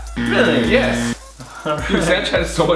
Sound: loud buzzing

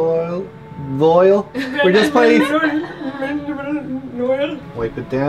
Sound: laughs; mocking noises

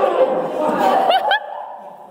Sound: happy Laughter

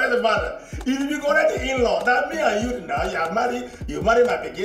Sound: foreign language

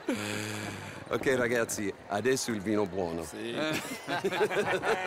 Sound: in Italian

